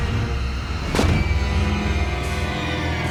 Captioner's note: thudding